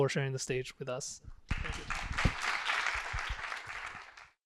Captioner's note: applause